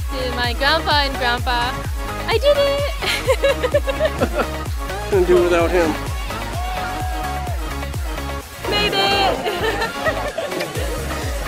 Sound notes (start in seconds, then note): 3.0 laughter; 6.2 cheering